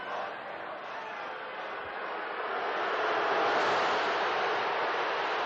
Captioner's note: chanting; boos and yelling